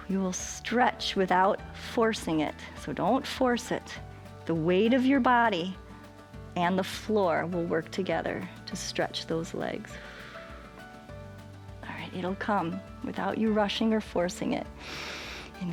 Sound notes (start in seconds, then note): 9.9 exhales; 14.8 inhales